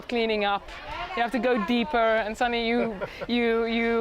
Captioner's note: chuckling